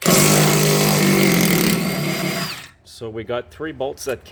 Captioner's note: banging sound; drilling sounds